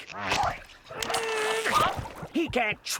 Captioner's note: grunting